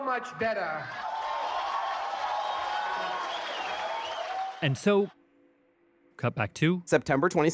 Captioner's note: cheers